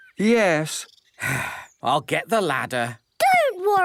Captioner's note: sigh